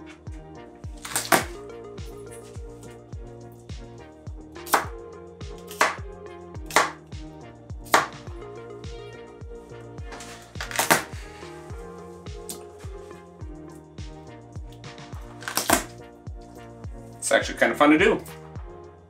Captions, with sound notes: (chopping) (crushing) This is actually kinda fun to do.